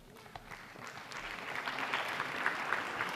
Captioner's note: applause